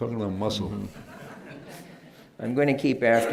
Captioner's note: laughter